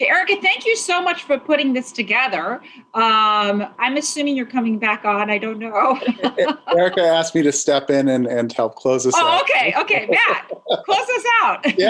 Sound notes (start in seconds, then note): 5.8 laughing